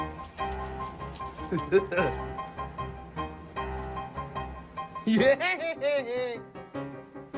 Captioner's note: Ella laughs